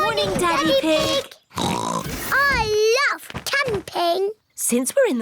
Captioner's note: oinks